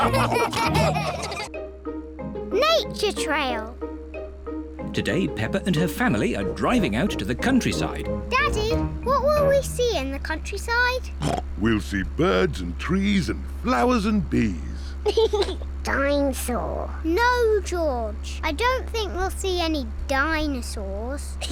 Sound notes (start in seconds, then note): 11.2 snorts; 15.0 laughs